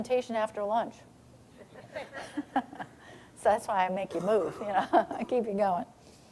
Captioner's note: audience laughing